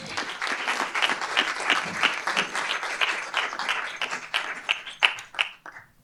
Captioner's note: applause